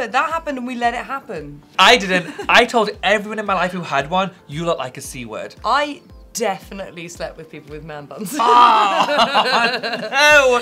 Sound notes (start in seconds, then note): 8.2 Alexa laughing